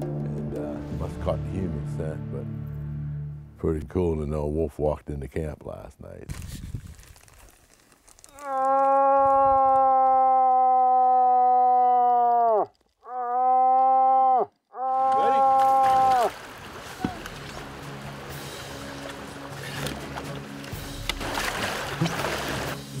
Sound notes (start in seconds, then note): 7.6 bellows